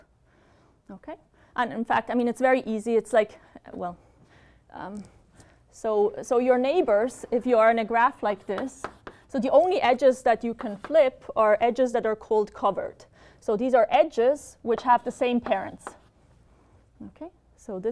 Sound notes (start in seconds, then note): 8.4 taps